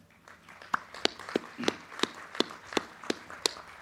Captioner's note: crowd clapping